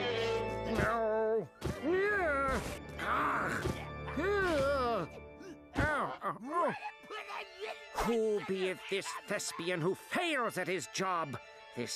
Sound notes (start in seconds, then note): 3.0 grunting